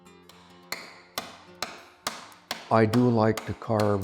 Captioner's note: pounds chisel